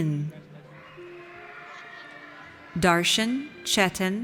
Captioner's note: audience cheers